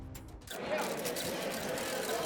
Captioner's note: crowd noise; camera shutters